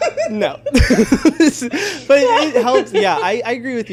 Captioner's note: laughs